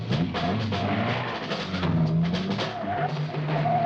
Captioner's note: car engine roaring